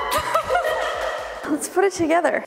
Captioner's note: all laughing; hands clapping